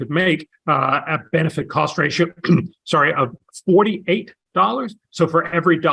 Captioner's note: cough